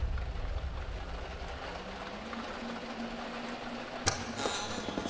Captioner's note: rain falling on a window